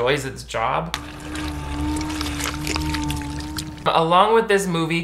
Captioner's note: floor slurping; machinery humming